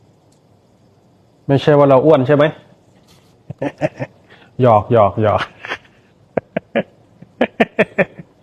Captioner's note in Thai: เสียงหัวเราะ